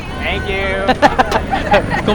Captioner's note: laughs